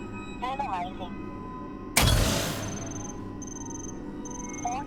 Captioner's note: automated Voice; interface beeping